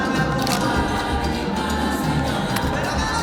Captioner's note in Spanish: Clic de la cámara